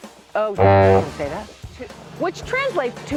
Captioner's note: honk